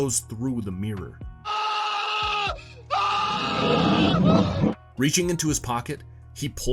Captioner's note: screaming